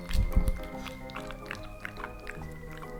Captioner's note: nom nom nom